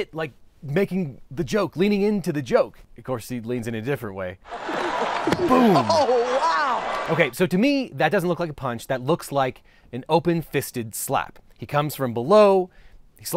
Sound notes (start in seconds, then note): 4.4 audience laughs; 5.2 hand smacks